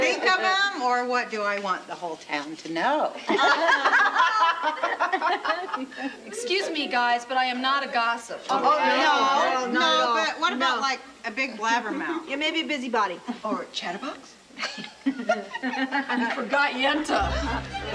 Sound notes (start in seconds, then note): 0.3 women laughing; 12.0 chuckling; 14.2 upbeat orchestral music